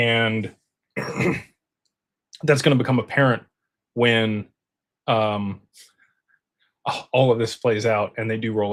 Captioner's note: clears throat